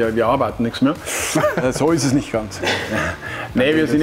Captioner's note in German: lacht